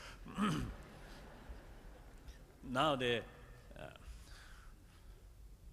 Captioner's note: laughter